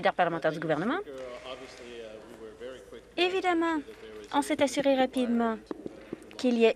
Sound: some Applause

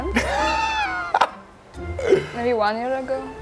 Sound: laughs

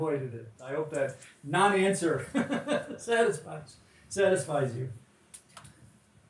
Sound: chuckles

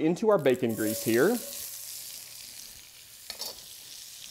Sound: pan sizzling

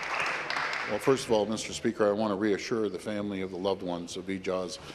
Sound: some Applause

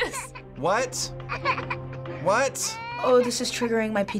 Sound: doll crying

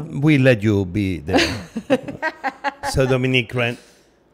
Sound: Dominique laughing

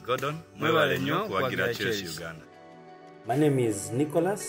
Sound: speaking in foreign language

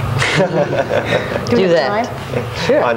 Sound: laugh

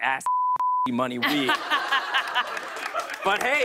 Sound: laughter and applause

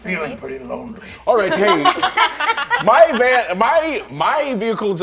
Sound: players laughing

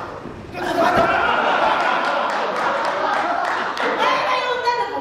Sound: laughs

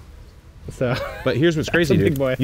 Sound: laughing loudly

